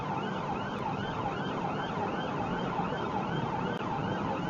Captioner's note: police car siren